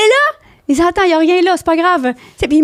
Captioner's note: in french